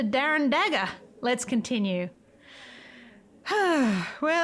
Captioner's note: sigh